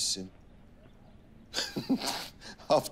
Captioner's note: laughter